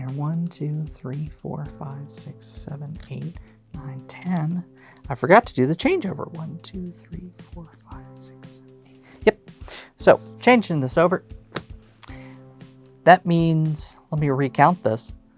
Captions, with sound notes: One, two, three, four, five, six, seven, eight, nine, ten. I forgot to do the changeover. One, two, three, four, five, six, seven, eight. Yep. So, changing this over. (card slaps) That means, let me recount this.